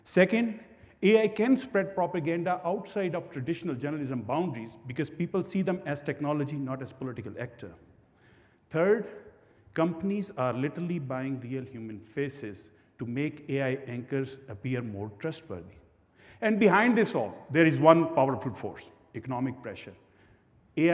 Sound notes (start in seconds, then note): none